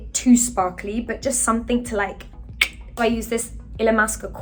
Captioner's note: Charithra clicks tongue